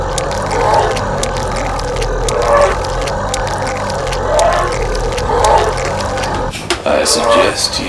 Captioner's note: tearing; painful moans